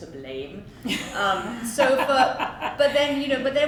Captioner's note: laughs